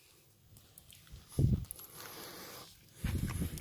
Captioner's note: makes nasty eating noises and breathes loudly